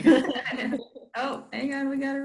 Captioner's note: laughs